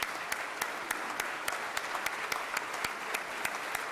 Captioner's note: everyone clapping